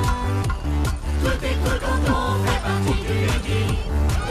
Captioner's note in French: les martèlements rythment la chanson; en chœur